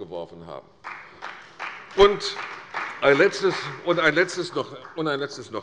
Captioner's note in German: Beifall bei der CDU